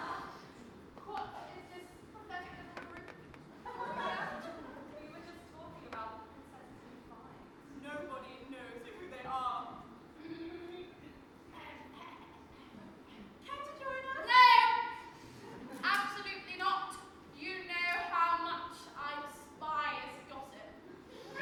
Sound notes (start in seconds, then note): 10.1 stepmother clearing throat